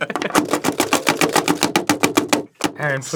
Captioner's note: chopping infensifies